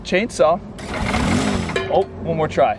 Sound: machine whirring

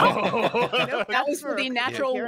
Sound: all laugh

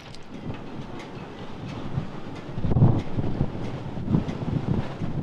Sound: wind gushing

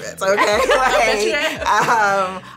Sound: laughter

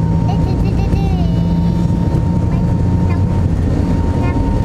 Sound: vocalizing

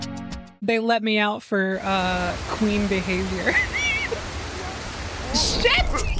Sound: laughter

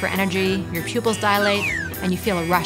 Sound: circus whistle blows

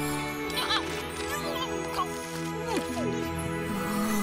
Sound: chewing

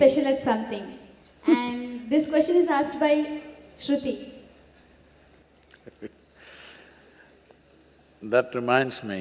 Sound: Sadhguru Laughs

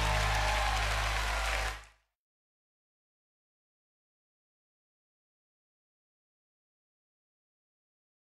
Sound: cheers and applause

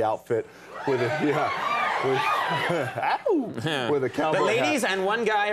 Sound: crowd cheering

